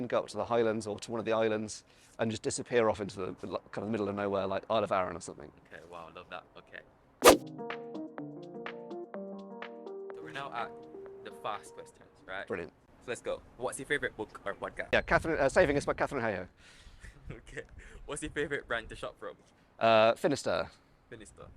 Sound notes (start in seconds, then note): 7.2 text whooshes; 7.4 gentle music